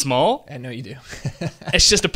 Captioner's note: laughs